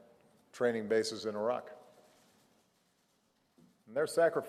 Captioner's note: none